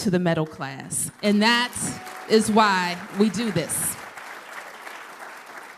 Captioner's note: applause